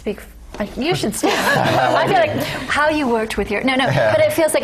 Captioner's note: laugh